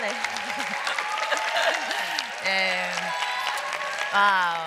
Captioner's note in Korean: 박수